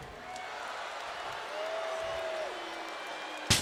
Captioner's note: crowd booing